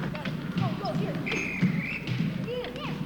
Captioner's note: whistles blows